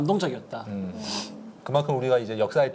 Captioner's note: sniff